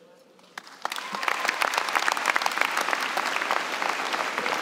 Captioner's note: applause